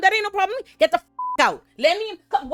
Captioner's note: beep